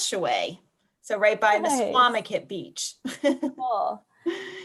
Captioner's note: laughs